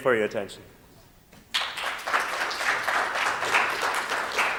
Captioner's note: applause